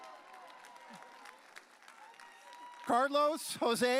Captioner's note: audience cheering